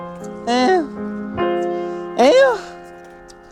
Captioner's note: sigh